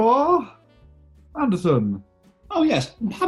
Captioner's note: high pitched